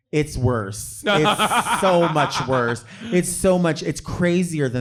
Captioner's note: laughing